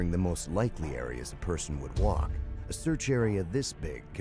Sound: voiceover

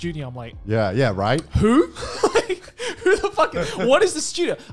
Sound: laughing

